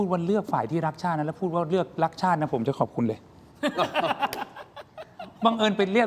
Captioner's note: laughs